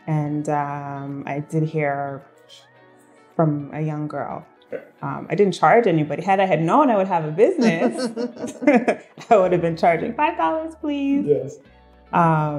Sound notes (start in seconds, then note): 7.5 laughing